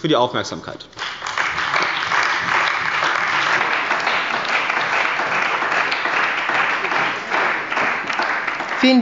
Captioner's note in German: Beifall bei der CDU und dem BÜNDNIS 90/DIE GRÜNEN